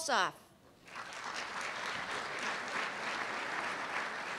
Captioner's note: applause